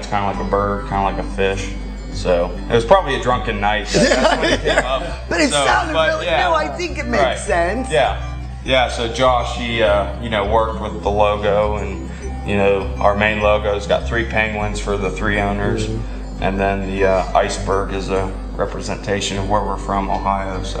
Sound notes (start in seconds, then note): 3.8 laughing